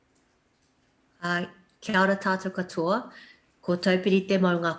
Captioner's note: non-english speech